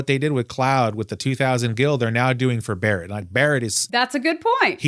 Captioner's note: none